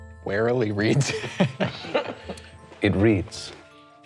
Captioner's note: laughing